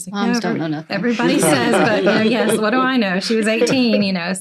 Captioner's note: laughter